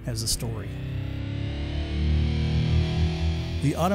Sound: engine revving

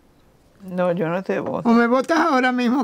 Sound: Spanish

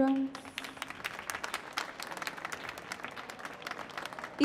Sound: applause

